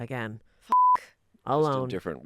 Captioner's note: beep